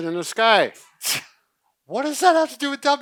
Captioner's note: exhales loudly